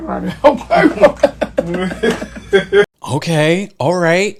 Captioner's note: laughs